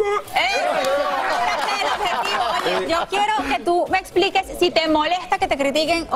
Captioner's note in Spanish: aplausos